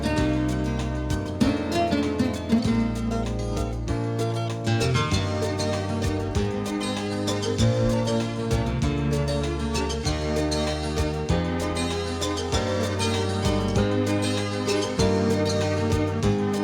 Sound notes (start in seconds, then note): none